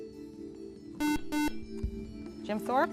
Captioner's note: buzzer